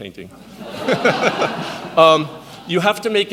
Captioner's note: audience laughs